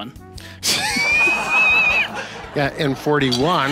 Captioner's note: audience laughing